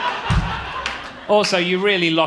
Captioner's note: audience laughing